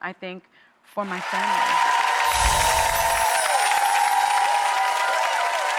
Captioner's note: crowd cheering